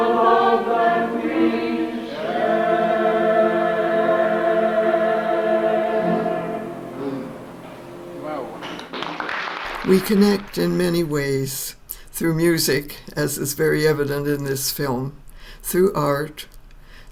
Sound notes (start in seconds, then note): 8.8 applause